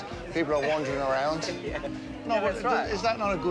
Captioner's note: laughing